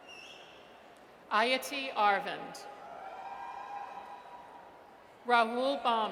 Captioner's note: audience cheers